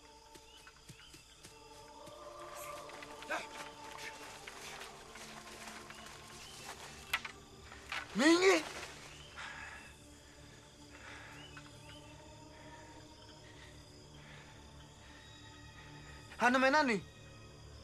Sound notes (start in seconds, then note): 9.1 breathing heavily